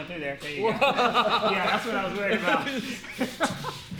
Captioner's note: laughs loudly